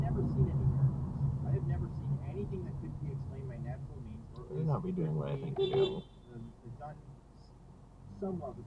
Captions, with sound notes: ...you'd better not be doing what I think you're doing... *beepbeep*